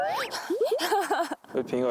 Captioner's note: laughing first